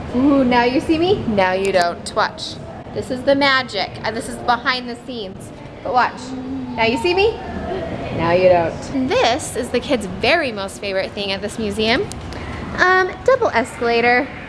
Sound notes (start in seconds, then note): none